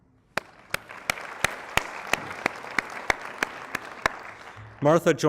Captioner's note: applause